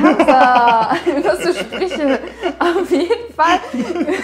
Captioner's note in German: lacht; beide lachen